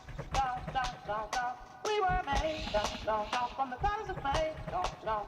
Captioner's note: recorded audio of satterwhite's mother